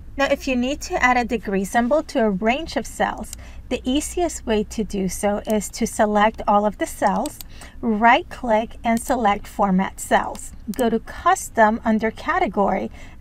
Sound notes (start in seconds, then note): 7.0 mouse clicks